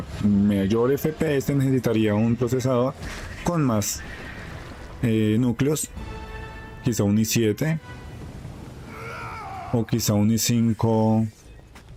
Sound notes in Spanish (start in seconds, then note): 8.8 gemido